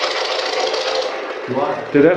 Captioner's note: white Noise